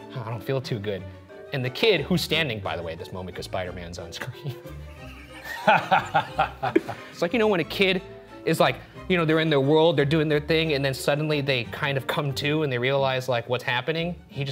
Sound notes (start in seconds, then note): 4.7 group chuckling